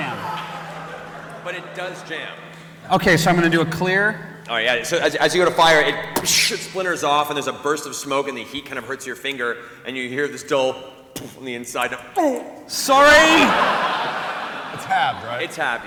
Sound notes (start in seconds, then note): 10.6 impact; 12.3 grunt